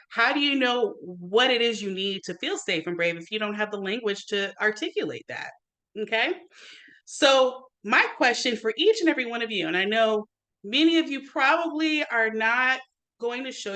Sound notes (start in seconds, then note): none